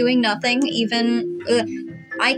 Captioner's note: blubber